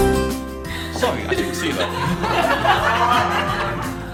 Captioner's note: laughter